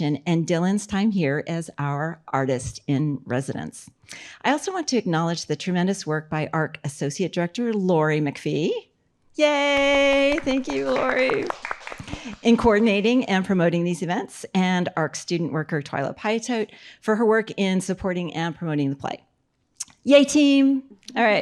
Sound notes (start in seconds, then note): 9.7 audience clapping